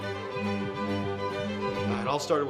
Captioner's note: cellphone vibrates